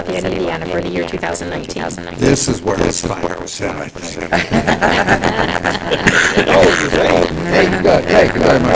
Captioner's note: laughter